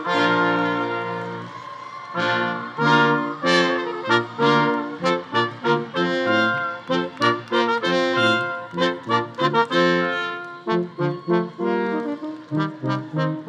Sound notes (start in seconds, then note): 7.4 audience applause continues; 7.4 audience cheering continues